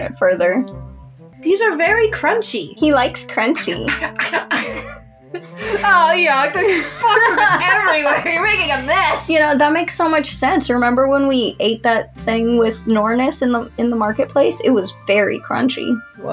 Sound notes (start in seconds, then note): 3.6 both Giggle; 3.9 chomping Sounds; 7.9 laugh